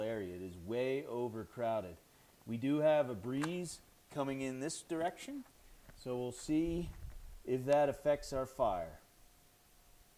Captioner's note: strikes match